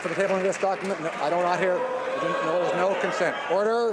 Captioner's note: some Applause